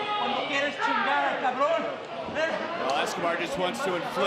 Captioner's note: spanish language